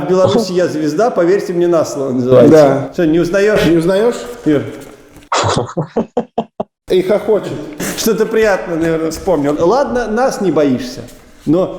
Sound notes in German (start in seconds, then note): 5.3 lacht